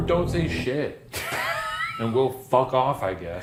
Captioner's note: laughs